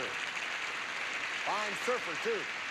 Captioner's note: audience applauding